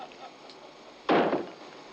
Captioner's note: exploding